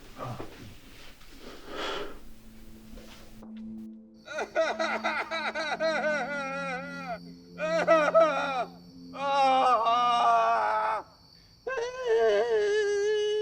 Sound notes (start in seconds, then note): 3.8 melancholic ambient music; 4.3 loud, desperate crying